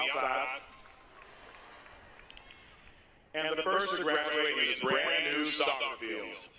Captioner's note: applause